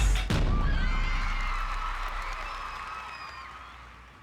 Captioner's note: crowd cheering